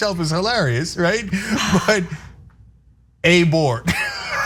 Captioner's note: laugh